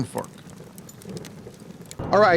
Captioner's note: fire crackles